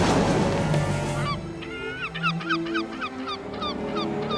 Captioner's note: seagulls caw